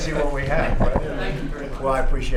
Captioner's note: laughter